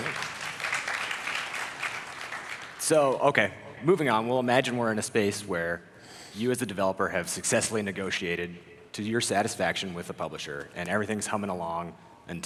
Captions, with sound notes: (applause) - So okay moving on. We'll imagine we're in a space where you as a developer have successfully negotiated to your satisfaction with a publisher and everything's humming along,